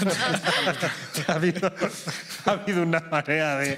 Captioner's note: laughter